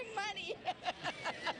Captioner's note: laugh